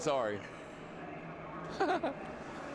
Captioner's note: laughter